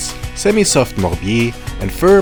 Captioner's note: foreign language